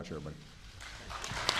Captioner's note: applause